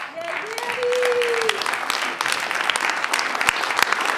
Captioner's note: clapping